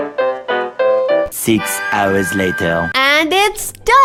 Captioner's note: french Accent